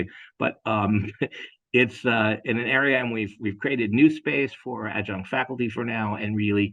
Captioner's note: laugh